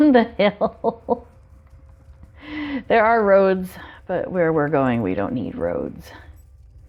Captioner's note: laughs